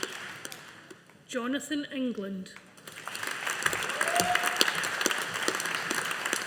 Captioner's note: audience applauding